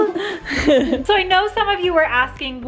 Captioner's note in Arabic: يضحك